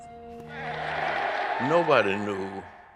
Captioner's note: cheering in film